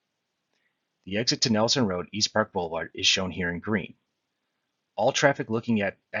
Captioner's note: click